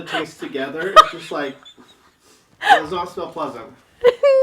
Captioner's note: laughing